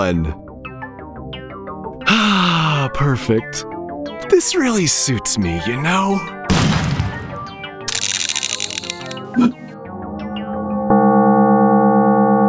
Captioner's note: gunshot